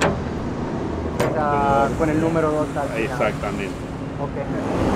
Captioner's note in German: auf Spanisch